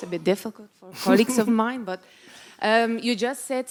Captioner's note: Gary laughs